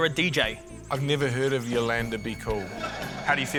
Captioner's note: laughter